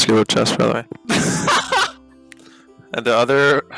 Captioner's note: laughing